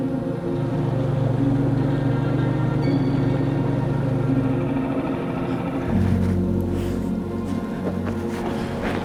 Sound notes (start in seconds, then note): 0.1 engine buzzing; 1.5 gentle music